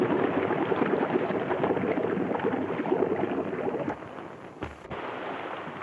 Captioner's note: water splashes and bubbles